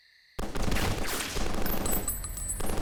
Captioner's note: gunshots